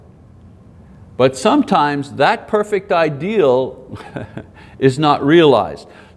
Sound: chuckles

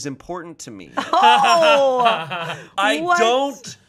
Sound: laughing

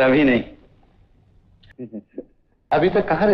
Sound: chuckles

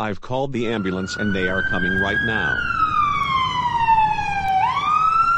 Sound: ambulamce siren blares

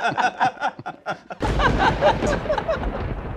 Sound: laughter; thunder rumbling

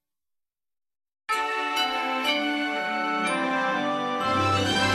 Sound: assertive chime playing

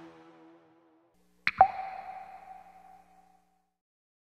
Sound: water plunks

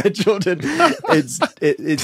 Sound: laughs

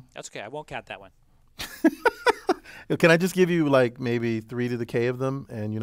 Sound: laugh

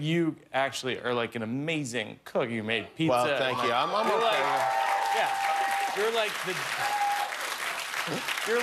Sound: cheers and applause

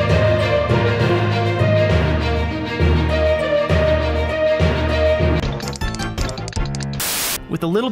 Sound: inspiring music; weak clicking

